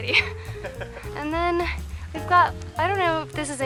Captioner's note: laughter